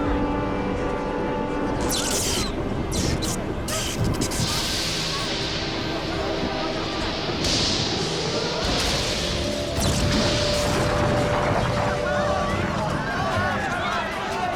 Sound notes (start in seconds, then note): 1.0 lightning crashes; 9.0 explosion; 11.7 clamor